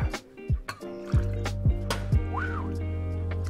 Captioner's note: pouring